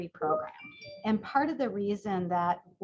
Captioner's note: chimes